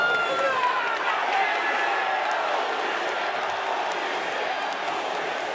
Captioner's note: crowd chanting "holy shit"